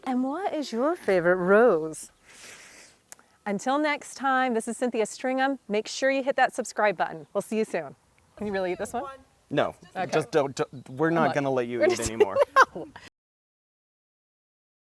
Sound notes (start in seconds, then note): 2.2 inhale resounds; 11.8 laughing